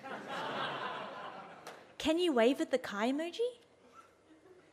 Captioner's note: audience laughs